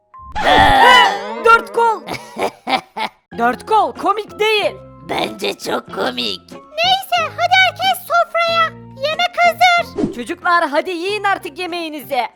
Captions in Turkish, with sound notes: Ne! Dört Kol! (Gülme sesi) Dört Kol, komik değildi. Bence çok komik! Neyse, hadi herkes masaya otursun. Yemek hazır. Çocuklar, yemeğinizi yiyin.